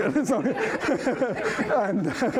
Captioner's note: laughter